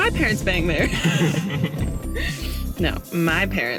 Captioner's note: laughing